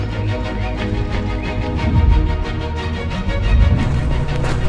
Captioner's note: birds tweeting